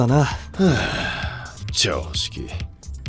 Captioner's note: sigh